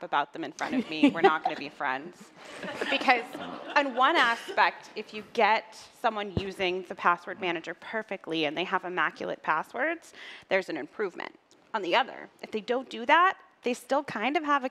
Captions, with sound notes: password manager for life. Don't talk crap about them in front of me, we are not going to be friends (laughter). In one aspect, if you get somebody using the password manager perfectly and they have immaclet passwords, there's an